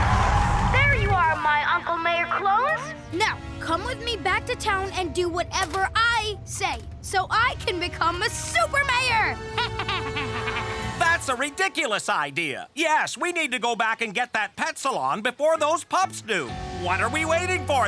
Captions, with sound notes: There you are, my Uncle Mayor clones. Now, come with me back to town and do whatever I say, so I can become a super mayor. [laughing] That's a ridiculous idea. Yes, we need to go back and get that pet salon before those pups do. What are we waiting for then?